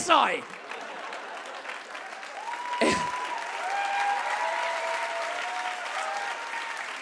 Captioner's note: audience cheers and claps